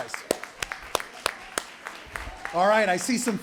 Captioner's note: applause